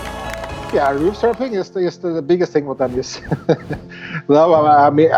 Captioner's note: laughs